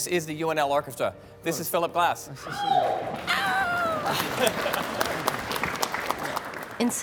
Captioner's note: cheering